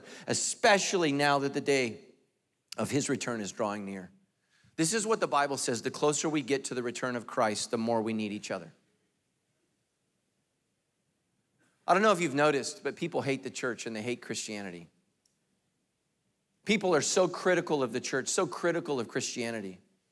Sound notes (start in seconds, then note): none